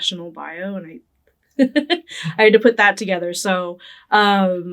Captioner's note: laughing